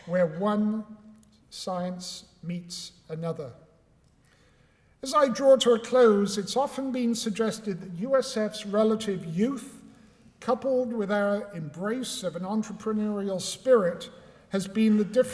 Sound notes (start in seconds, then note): none